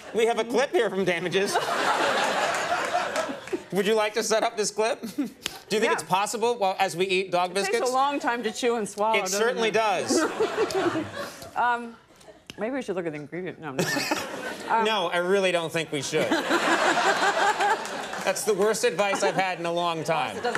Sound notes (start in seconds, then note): 16.1 audience laughs